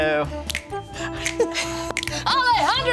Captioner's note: everyone chuckles